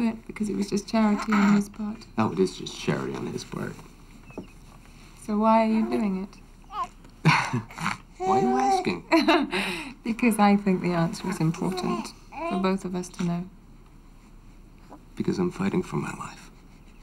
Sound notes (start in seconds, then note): 7.2 chuckles; 9.3 laughs